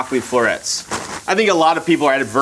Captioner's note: plastic crunches